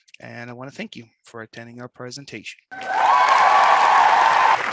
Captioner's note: applause